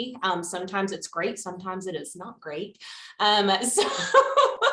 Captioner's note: laughs